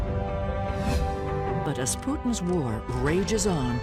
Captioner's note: air whooshing